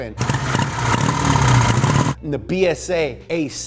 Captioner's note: engine revving